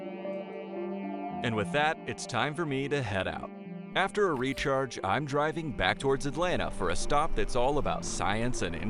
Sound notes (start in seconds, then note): 1.5 voiceover